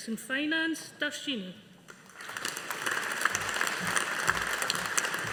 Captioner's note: audience applauding